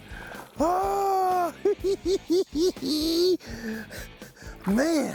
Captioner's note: laughing